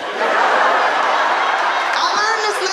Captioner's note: audience laughing